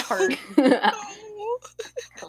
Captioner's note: laughs